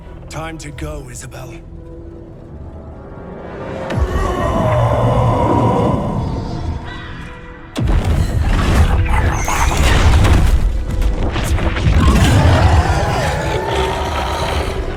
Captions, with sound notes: Time to go, Isobel. [Yelling]